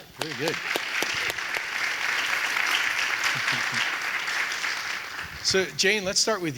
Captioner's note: audience applauding; clapping